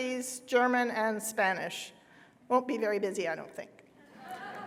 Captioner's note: laughter